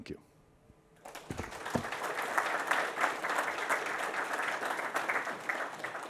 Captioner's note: audience applauds